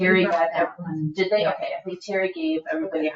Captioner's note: people chattering